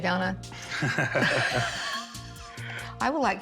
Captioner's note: laughter